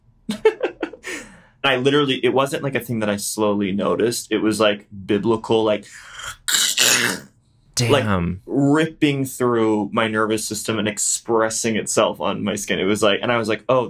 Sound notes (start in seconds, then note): 0.3 laughs; 6.1 squelches